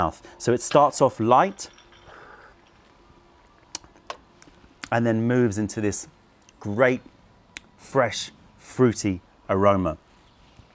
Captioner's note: sips tea